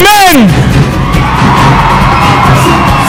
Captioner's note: cheering